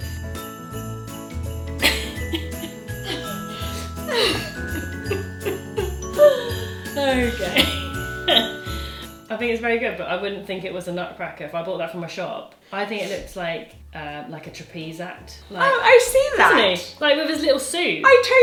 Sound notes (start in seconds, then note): 0.3 happy festive music; 1.8 both giggle; 7.0 laughs